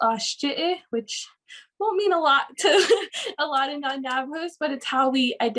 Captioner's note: laughs